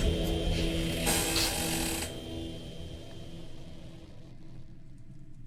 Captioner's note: dramatic music; floor creaking